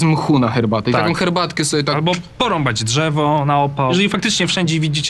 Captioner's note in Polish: cmoknięcie